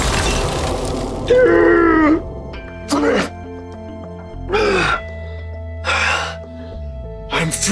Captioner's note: gasping